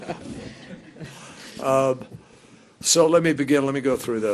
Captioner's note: laughter